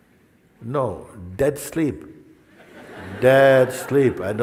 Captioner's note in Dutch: gelach